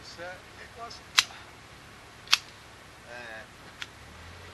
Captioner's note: sound - Shears being used to prune brambles